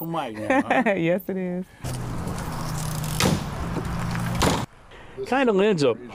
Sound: laughter

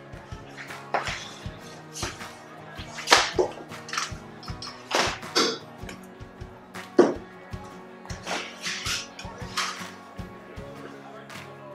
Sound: people chattering

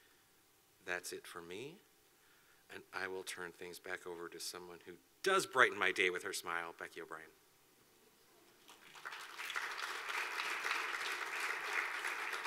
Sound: clapping

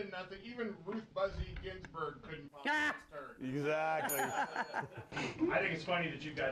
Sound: laughter; bell rings

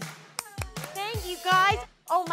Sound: Jenni clapping hands

